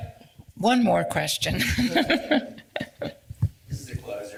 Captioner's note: laughs